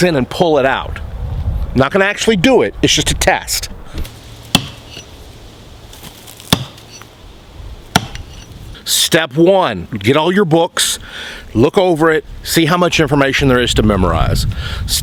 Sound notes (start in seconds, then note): 4.4 ax pounds